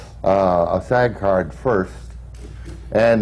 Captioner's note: none